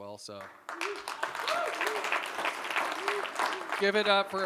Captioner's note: applause